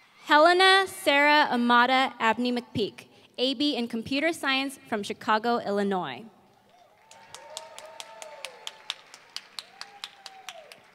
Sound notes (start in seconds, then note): 6.8 applause